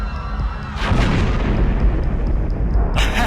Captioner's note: explosion